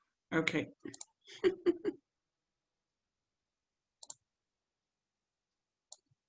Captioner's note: laughs